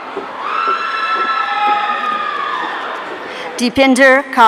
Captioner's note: audience cheering